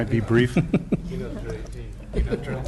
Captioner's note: laughter